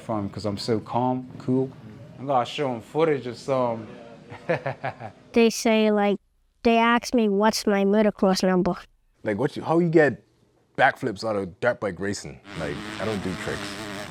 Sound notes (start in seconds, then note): 4.4 laughs